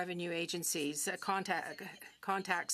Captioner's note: speaking French